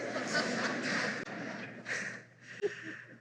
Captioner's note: laughter